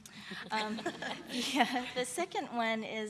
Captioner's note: laughter